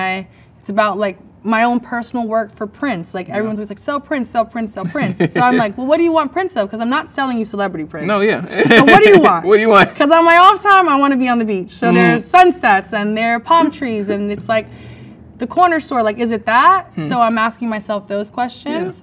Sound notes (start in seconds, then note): 4.8 man laughs; 8.1 laughs